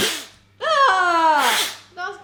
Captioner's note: blows; screams; blows